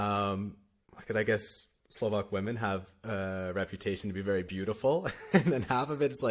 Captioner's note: laughter